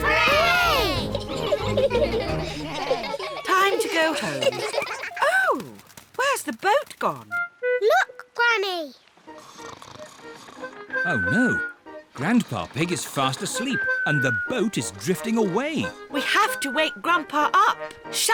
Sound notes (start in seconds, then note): 0.8 giggle; 9.3 snores